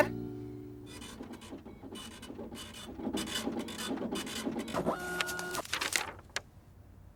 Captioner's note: printer whirring